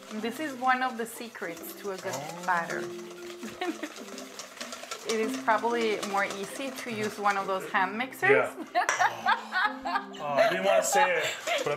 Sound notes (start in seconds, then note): 3.4 laughing; 8.7 laughing